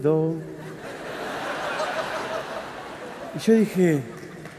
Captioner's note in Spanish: Risas